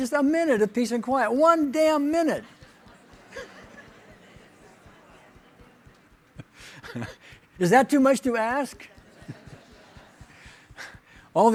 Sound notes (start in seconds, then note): 2.6 audience talking over each other; 6.2 laughing